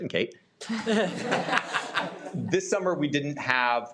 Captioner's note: audience laughs